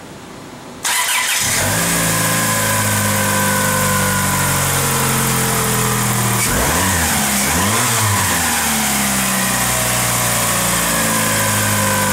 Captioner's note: vehicle starts up and runs perfectly